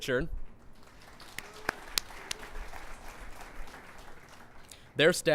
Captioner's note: clapping